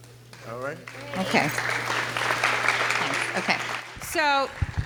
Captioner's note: audience claps